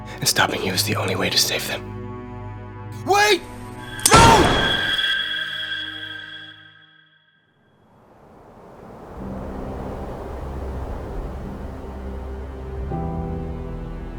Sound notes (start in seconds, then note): 4.0 gun bangs; 7.9 wind blowing; 9.2 soft piano music